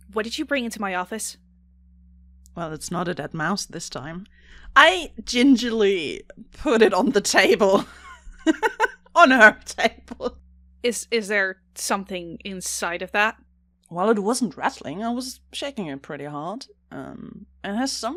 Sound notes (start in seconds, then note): 8.4 laughs